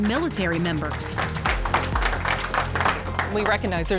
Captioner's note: audience applauding